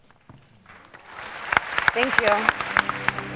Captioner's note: audience applauds